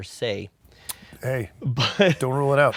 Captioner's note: laughs